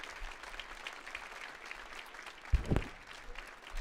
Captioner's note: audience applauding